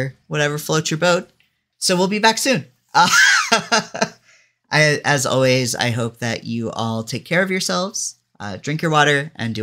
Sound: laughs

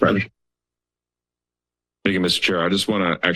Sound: silence

